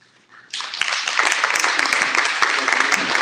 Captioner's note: applause